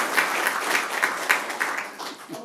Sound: applause

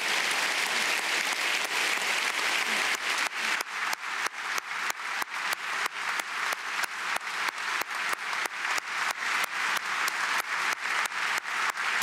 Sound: applause

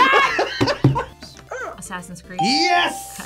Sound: React laughs; buzzer barks

